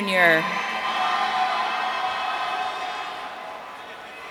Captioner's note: audience cheering